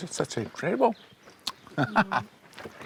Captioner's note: laughs